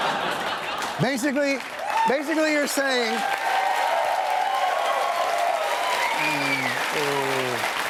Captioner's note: cheers and applause